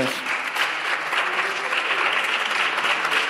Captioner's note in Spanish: Aplausos